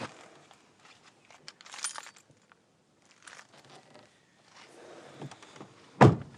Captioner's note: none